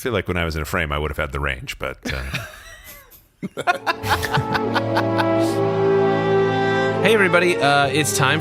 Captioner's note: laughs